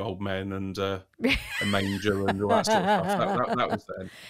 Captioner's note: laugh